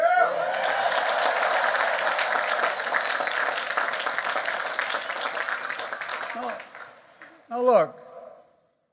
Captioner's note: applause